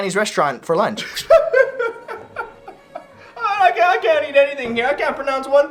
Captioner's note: laughing